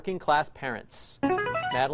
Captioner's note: chiming